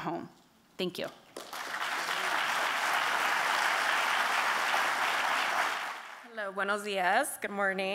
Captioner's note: applause